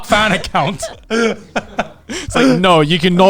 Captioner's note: everyone laughing